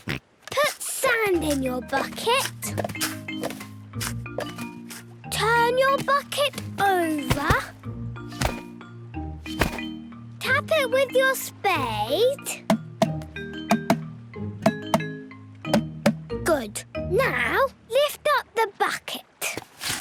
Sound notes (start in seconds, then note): 12.7 tapping